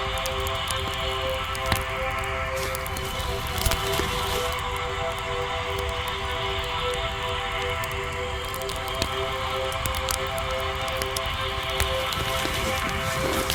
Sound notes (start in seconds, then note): 6.2 mysterious music continues; 9.2 fire crackling continues